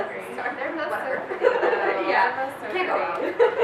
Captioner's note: laughs